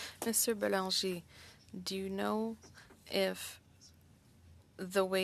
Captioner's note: speaking French